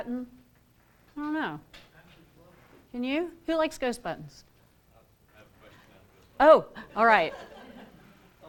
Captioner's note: laughter